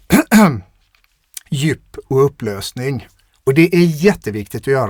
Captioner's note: clears throat